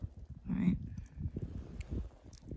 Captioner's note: wind blows